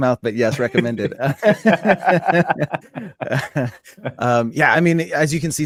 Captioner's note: panelists laughing